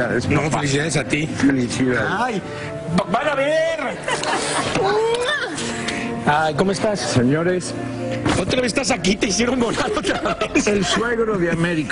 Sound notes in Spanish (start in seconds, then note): 4.0 risas